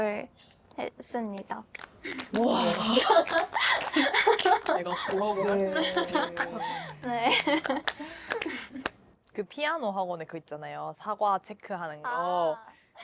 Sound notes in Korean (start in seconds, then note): 4.5 박수!